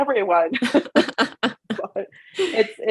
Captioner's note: both Laugh